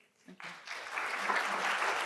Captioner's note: applause